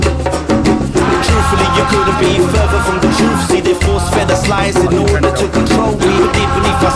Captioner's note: non-english